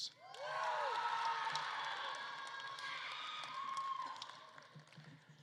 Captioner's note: attendees cheering and applauding